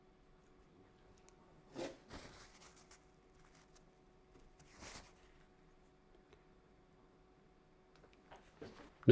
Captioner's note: silence